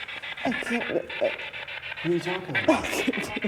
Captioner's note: Isabel sobbing